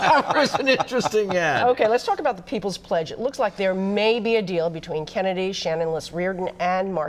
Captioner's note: laughter